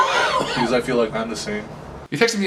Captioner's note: coughs